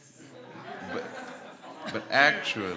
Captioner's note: audience laughs